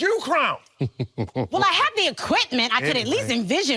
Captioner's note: laughing